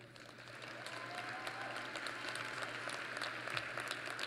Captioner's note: applause